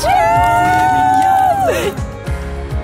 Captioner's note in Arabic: هتاف; موسيقى مبهجة